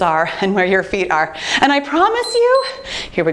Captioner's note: timer beeps